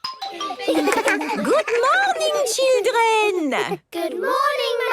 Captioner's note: laughter